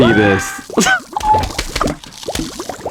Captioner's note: laughs to myself